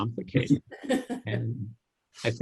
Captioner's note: laughter